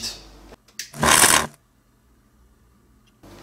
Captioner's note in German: Geräusch eines elektrischen Lichtbogens